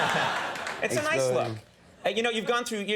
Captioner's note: laughing